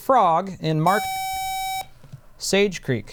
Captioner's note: buzzer